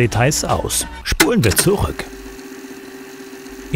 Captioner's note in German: Zurückspulgeräusche